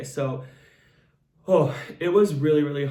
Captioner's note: breaths out